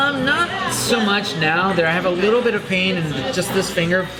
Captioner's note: none